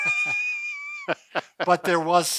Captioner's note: laughing